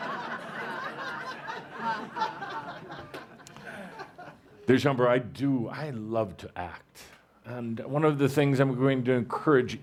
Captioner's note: laughter